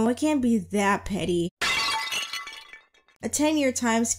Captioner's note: vase breaking sound effect